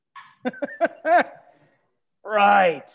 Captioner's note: laughs